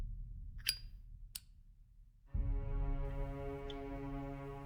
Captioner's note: lighter lid clinks open; lighter clicks